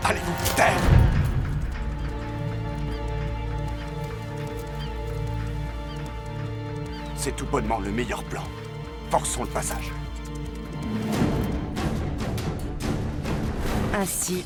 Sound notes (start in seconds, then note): 1.0 birds cawing; 1.5 tense music; 11.8 dramatic music